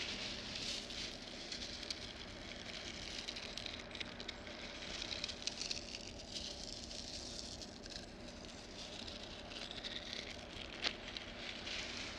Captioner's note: rustling